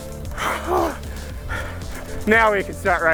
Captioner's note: heavy breathing